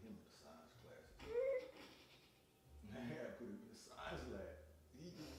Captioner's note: laughing